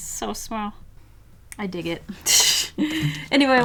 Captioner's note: laughs